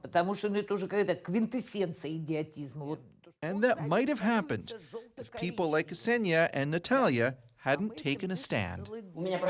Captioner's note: speaking russian